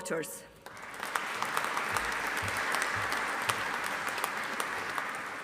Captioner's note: audience applauding